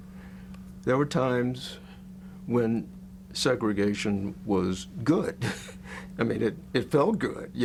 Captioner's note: laughs